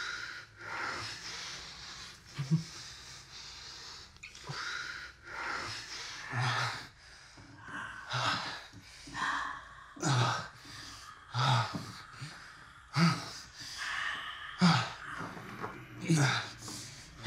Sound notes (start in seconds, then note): 5.9 men pant and grunt